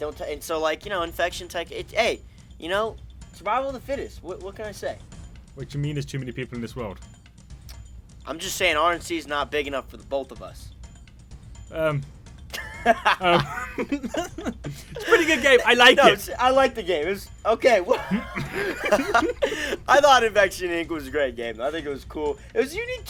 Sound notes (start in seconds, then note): 12.5 both laughing; 12.5 midget laughs; 17.8 laughter